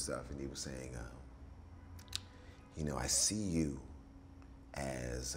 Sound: none

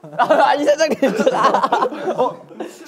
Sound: giggles

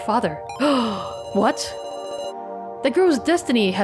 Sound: gasps

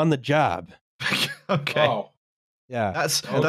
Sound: laughs

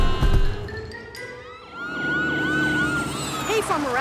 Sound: screaming; sirens blaring

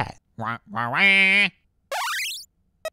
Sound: squawk

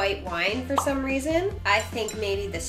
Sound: pop up sound

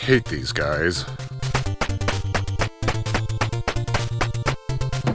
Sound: aggressively walking

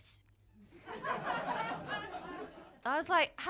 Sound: laughter

